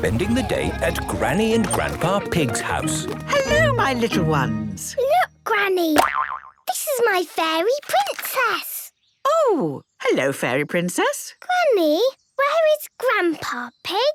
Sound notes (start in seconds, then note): 6.0 boing!